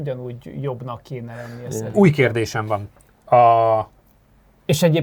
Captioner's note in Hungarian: horkantás